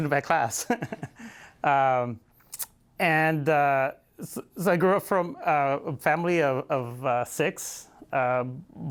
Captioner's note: laughter